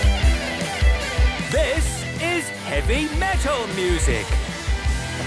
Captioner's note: shouting